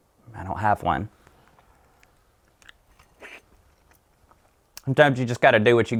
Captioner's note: licking